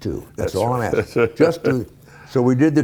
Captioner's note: laughing